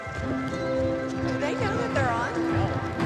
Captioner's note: indistinct chatter